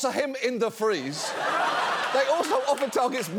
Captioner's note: audience laughs